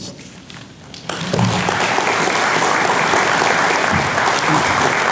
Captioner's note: audience clapping